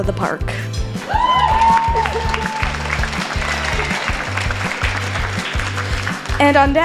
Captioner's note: clapping and cheering